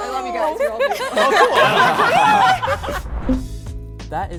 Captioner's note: laughing